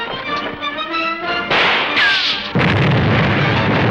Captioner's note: gunshot; explosion